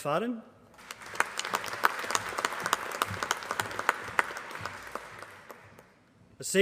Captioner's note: applause